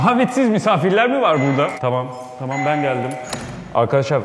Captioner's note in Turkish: Alarm Ötüyor